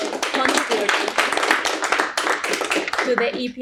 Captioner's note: audience applauding